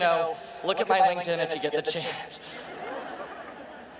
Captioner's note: crowd laughing; laughs